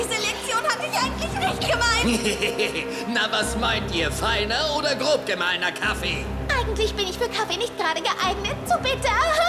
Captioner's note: laughing